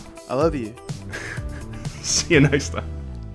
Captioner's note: laughs